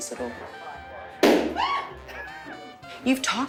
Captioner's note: baloon pops